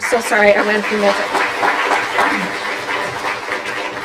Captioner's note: applause